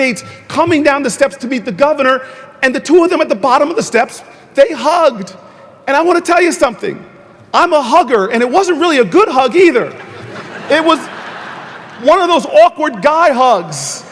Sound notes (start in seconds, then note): 9.9 audience laughing